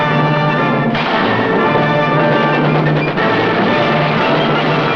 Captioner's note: bombs exploding